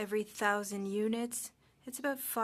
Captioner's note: speaking French